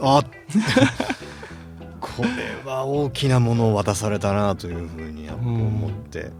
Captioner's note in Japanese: 笑い